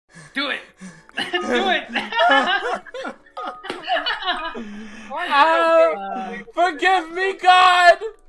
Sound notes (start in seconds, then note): 0.6 breathing; 1.1 laughing